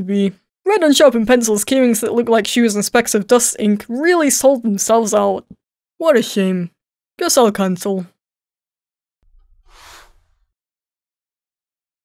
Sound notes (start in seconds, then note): none